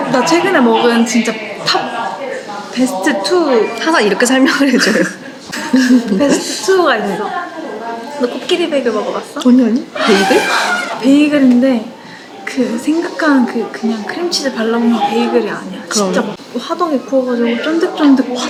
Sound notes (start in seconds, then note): 4.9 laughs; 9.9 sighing